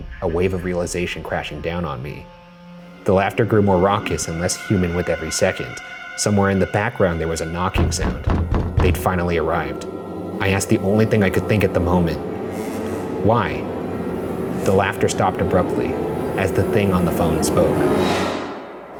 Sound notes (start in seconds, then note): 7.7 knocking